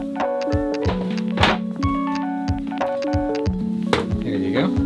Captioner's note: clanging